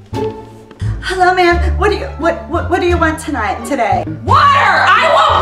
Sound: studdering

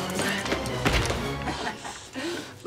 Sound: panting

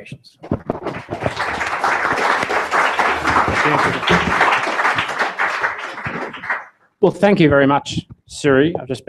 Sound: applause

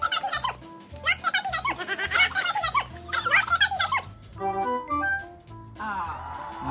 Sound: laughter

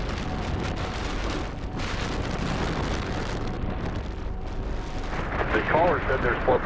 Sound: wind gusting

